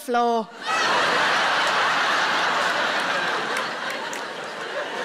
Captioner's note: audience laughing